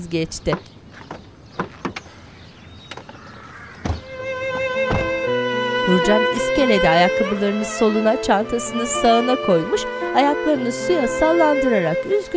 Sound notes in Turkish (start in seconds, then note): 0.2 Kapı açılma sesi; 4.0 Müzik - Duygusal; 4.5 Kapı kapanma sesi